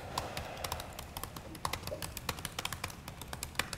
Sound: keyboard typing

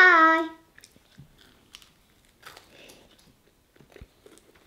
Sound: crunching

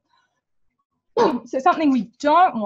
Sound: sneezes

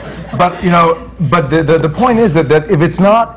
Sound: laughter

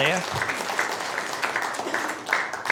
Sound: applause

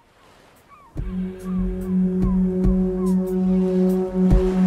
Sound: ocean waves, seaguls

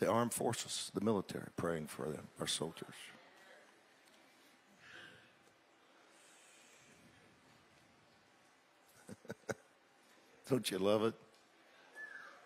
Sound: chuckles softly

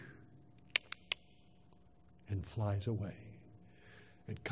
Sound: click, click, click

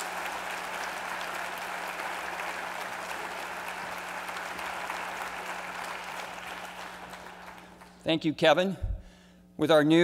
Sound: applause

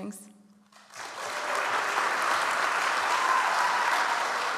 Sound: audience applauds

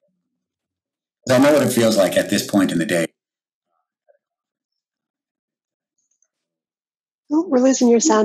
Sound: audio cuts out; audio cuts out

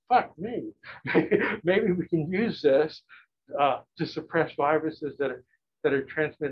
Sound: laughs

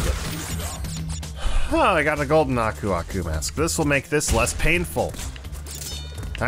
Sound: sigh

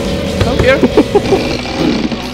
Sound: laughter; clanking

